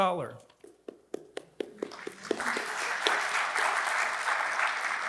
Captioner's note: attendees clapping